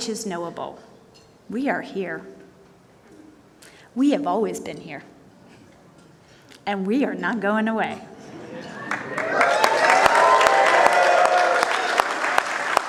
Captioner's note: cheers and applause